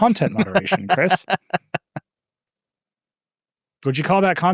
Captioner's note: laughing